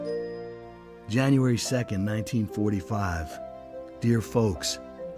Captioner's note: voiceover